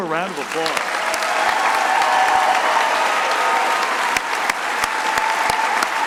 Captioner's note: crowd cheering and applauding